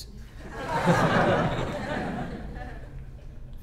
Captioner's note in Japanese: 笑い声